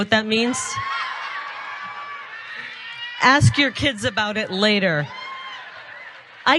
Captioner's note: applause